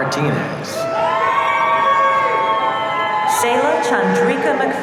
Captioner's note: audience cheering